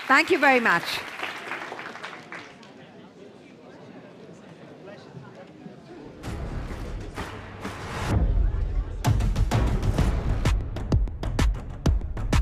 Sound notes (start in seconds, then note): 8.2 audience applause; 9.5 lively music